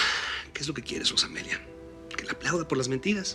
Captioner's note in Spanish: Exhalando